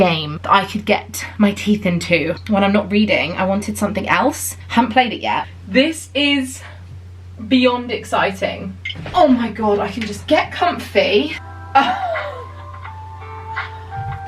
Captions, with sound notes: that I could get my teeth into. When I'm not reading, I wanted something else. Haven't played it yet. This is beyond exciting. Oh, my god, I can just get comfy. (laughing)